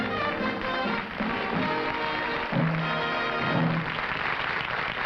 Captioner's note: applause